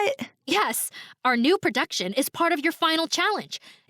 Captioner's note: none